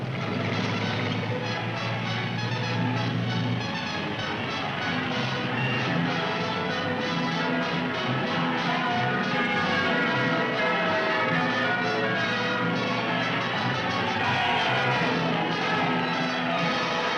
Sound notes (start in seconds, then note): 0.6 triumphant music; 9.7 bell ringing; 9.7 cheering